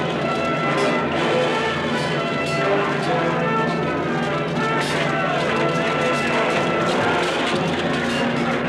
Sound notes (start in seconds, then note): 3.3 steel clanking